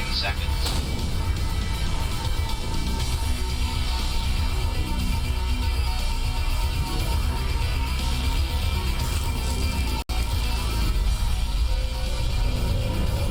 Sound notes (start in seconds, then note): 0.0 alarms & Bells; 0.4 DMR whining noise getting intenser and intenser; 11.2 alarms & Bells; 11.2 faint announcement plays